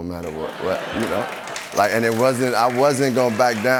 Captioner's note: laughter